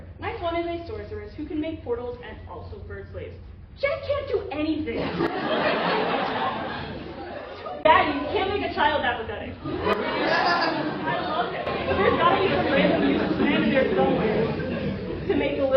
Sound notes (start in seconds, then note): 7.9 laughter; 9.6 laughter again